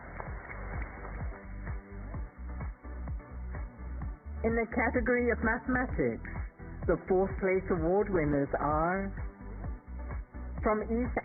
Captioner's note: applause